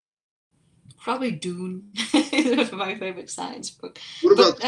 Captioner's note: chuckles